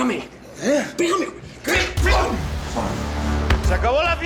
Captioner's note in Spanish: Golpes